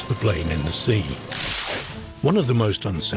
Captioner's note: graphics crackling